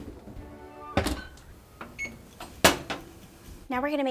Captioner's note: oven thudding; timer beeping